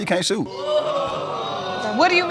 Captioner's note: audience exclaiming